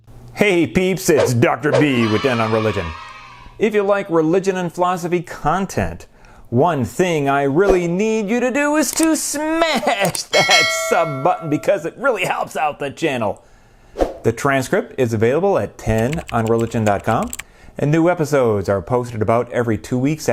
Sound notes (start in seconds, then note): 1.7 kids cheering; 10.3 bell ringing; 15.9 typing